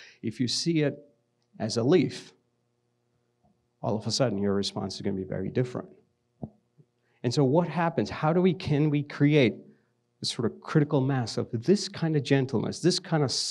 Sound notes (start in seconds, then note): none